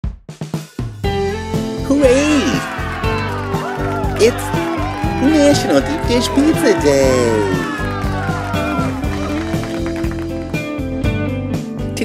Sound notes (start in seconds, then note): 0.0 cheerful music; 7.4 crowd cheering; 9.3 cheerful music